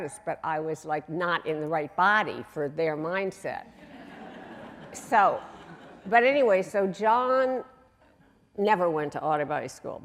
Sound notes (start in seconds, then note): 3.8 audience laughing